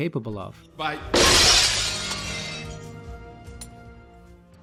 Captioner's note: glass smashes